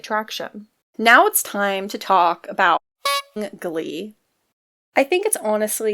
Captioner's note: clown horn effect